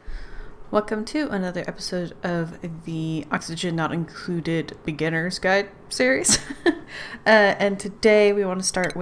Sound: laughs

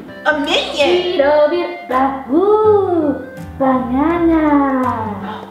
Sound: minion sounds

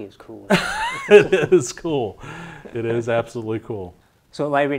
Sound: laughs

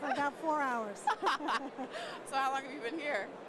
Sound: laughter

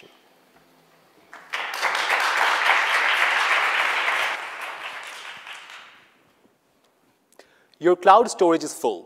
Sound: audience clapping

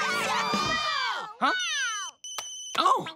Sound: cheering; phone rings

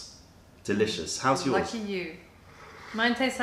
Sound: sips tea

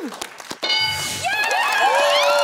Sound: bell dings; cheering

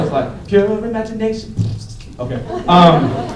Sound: beatboxing; laughter

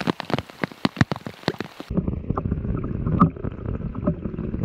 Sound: rain splashing

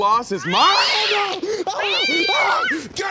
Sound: yowling, screaming

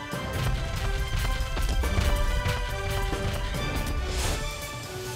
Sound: Air Condor's feet thudding

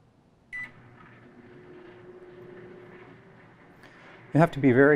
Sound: beeping; microwave sound

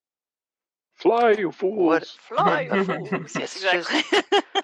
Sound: Gandalf voice; laughter

